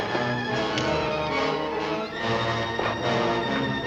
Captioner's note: gun clicks